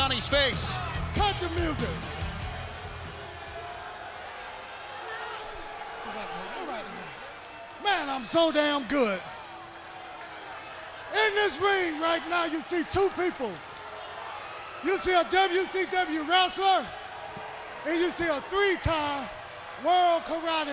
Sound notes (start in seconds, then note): 4.2 crowd cheering; 5.8 crowd chatter